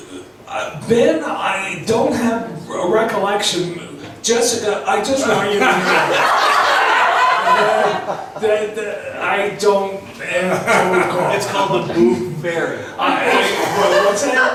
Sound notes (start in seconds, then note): 5.3 laughs; 11.9 voiceover